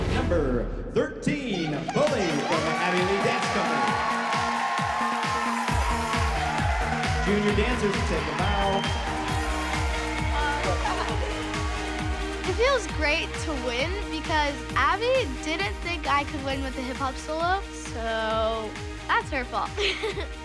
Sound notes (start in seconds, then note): 3.3 whooping; 19.4 laughs